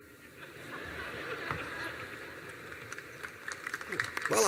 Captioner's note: laughter